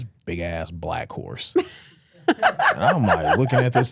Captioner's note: Stephanie laughing